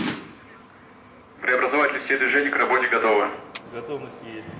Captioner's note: male voice speaks Russian